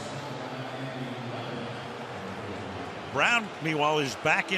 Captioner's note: pa announcement